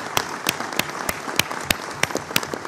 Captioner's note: applause